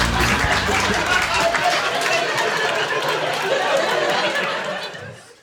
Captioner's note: audience laughing and clapping